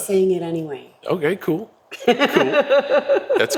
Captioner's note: laugh